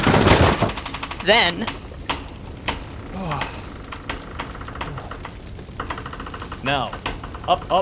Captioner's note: exhales in relief